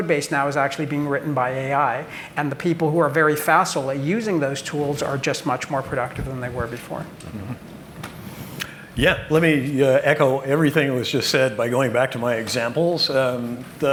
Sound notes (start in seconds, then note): none